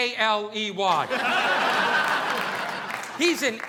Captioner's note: audience laughing